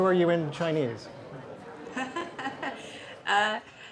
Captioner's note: she laughs